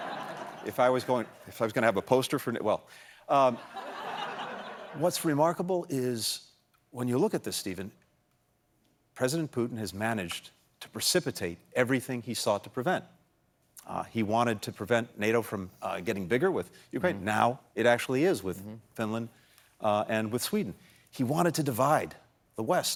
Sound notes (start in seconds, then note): 3.4 laughter